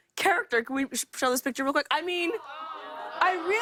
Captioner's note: audience awws